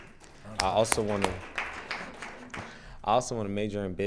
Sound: attendees applauding

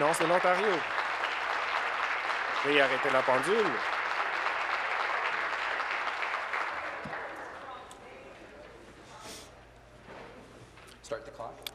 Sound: applause

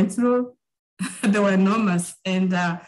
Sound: chuckling

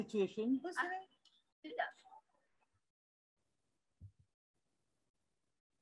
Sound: girl speaking in foreign language

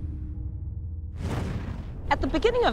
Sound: air whooshing

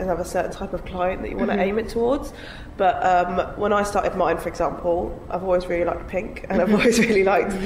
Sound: giggles

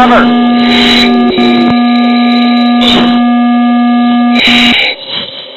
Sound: alarm

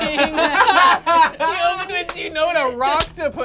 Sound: group laughs

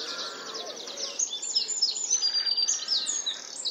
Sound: bird sounds

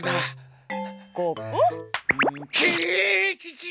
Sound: slap

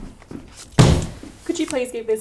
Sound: banging on table

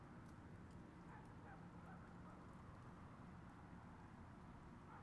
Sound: dog barking

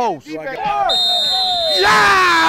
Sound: whistle

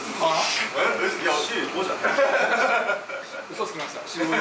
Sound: laughs

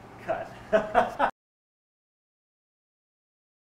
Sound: laughter

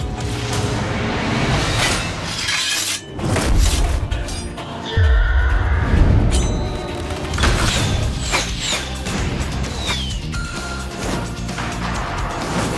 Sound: action movie sound effects starts playing

